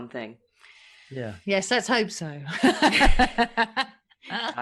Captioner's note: laughs